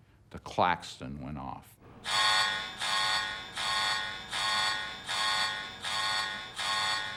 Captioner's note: alarm beeping